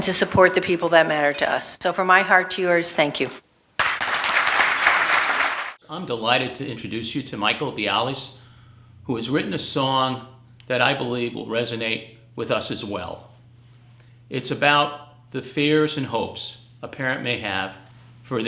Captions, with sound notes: and to support the people that matter to us. So from my heart to yours, thank you. (audience clapping) - I'm delighted to introduce you to Michael Biales who has written a song that I believe will resonate with us as well. It's about the fears and hopes a parent may have